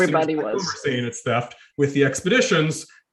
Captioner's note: audio distorting